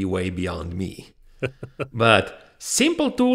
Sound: laughs softly

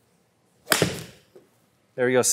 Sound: golf ball clanks

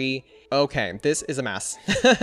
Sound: laughs

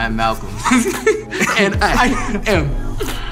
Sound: laughter

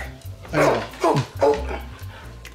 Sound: barking

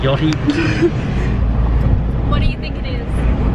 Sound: laughs

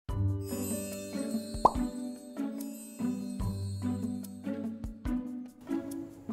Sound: soft music; wand chimes

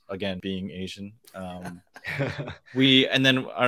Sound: laughs

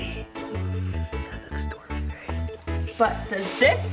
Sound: whispers

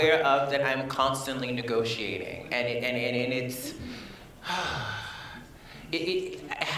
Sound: sighs

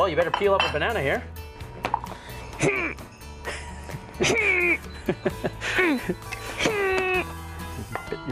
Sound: laughter

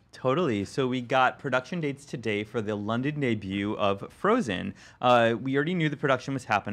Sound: none

